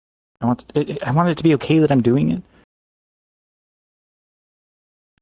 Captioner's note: stammering